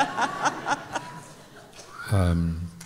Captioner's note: laughter